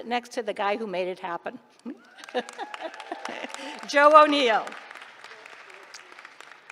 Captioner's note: applause